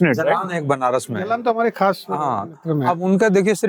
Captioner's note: speaking in Hindi